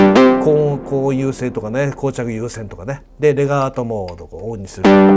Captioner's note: explains in Japanese